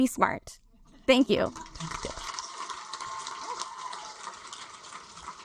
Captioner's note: audience applaud